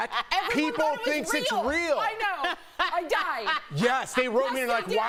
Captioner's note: laughter